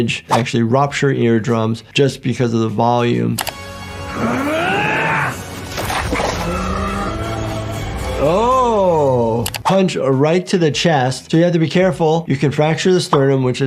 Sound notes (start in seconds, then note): 3.4 mouse clicking; 3.5 dramatic orchestral music; 5.6 exoskeleton crunching